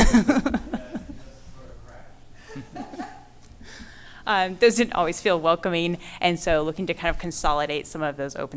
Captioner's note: laughter